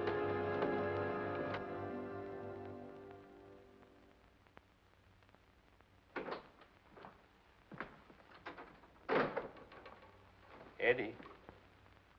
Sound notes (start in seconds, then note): 0.0 sentimental music; 6.1 door opens; 8.3 door closes